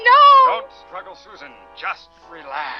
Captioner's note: man on Radio